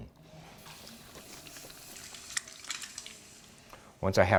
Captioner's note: whirring